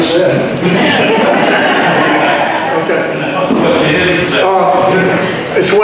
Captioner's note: audience laughter